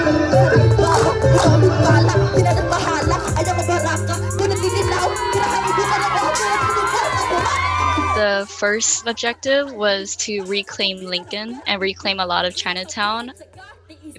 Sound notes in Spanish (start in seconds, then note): 0.2 rapeando en Tagalog; 4.7 audiencia aplaudiendo